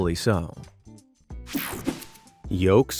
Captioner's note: scene change whooshing